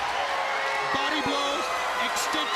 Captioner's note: crowd cheering